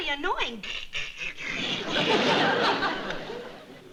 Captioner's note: mimicking sounds